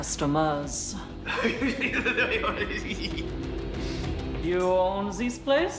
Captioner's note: uncle cackling creepily